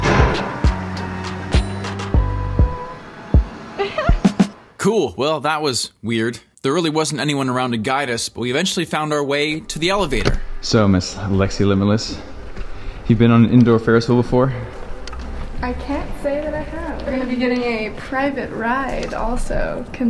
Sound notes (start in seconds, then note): 3.8 giggle